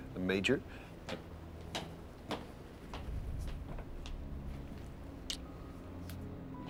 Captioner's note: footsteps approaching